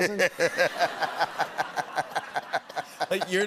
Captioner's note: laughter